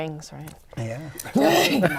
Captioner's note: laughter